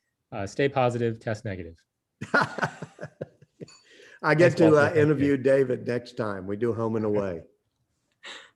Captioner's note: laughter